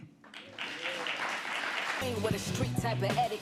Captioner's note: audience applauding